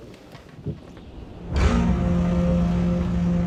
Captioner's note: door slamming